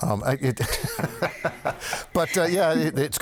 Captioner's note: panel laughing